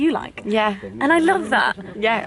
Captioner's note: voiceover